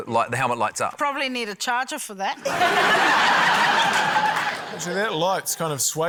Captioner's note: laughter